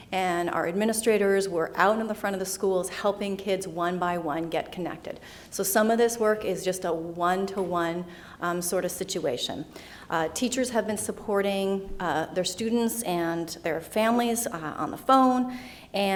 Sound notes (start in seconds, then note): none